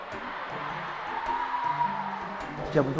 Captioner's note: waves of cheers